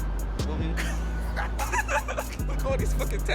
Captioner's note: laughing